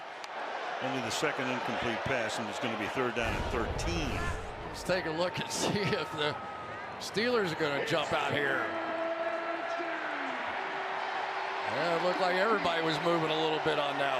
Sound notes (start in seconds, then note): 9.2 pa announcement; 11.3 cheering